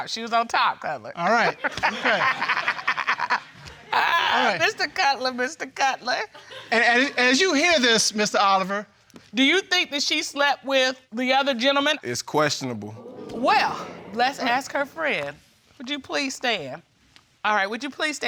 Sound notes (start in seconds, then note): 1.9 all laughing; 4.7 laughing